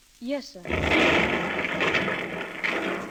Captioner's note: gunshot